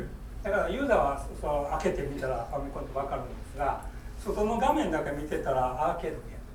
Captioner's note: speaking in foreign language